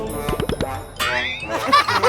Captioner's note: laugh